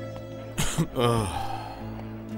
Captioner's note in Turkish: Öksürüyor